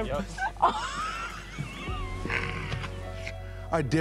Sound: laughter

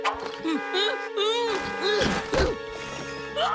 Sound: blows raspberry; panicked grunting

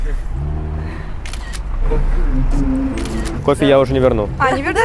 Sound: camera snaps

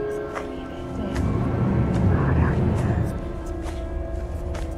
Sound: loud whispered Celtic voices

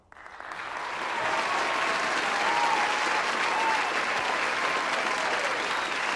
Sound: audience applauds; audience cheers

